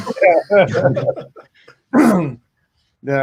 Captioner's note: all laugh